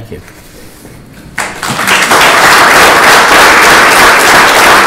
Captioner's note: applause